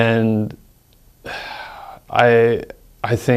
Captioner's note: sighs